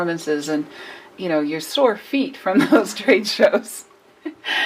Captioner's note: laughs